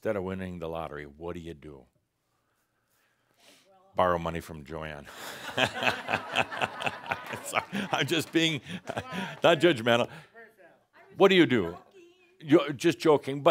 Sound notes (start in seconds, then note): 5.1 laughter